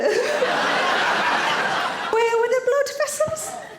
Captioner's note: audience laughing